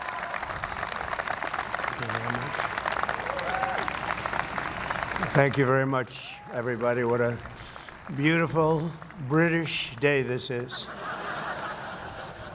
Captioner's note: applause